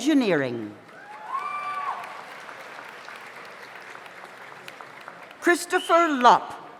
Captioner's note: audience applauds; audience cheers